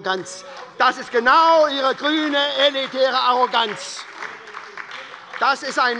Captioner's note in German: Beifall bei der SPD